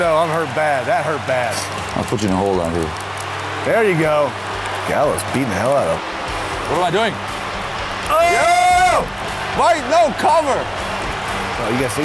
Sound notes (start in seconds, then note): 8.0 screams